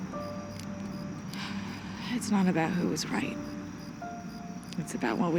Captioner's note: sighs